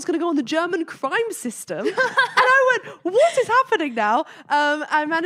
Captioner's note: laughing